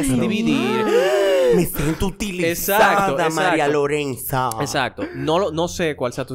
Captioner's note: surprised sounds